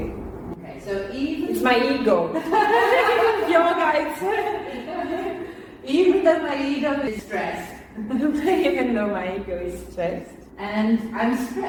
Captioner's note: laughter